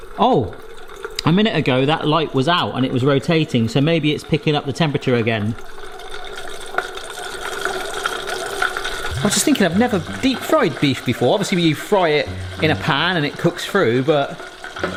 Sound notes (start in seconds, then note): 6.3 meat sizzling